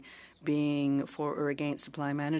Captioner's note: speaking in French